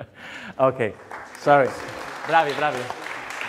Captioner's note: applause